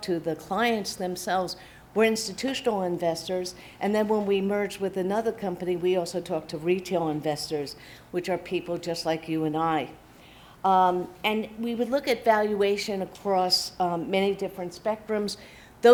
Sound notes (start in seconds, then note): none